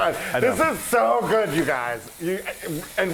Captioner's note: laugh